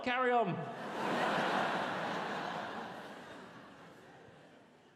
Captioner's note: audience laughs